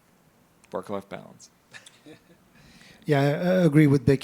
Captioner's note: laughs